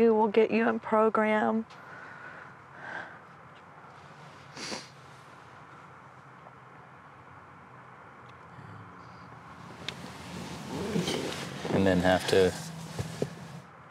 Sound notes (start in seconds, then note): 1.5 sighs